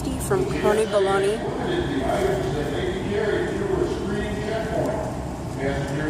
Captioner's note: male Airport announcer voice